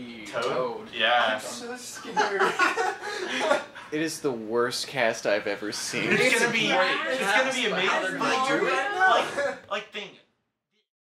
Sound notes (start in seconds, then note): 2.0 laughs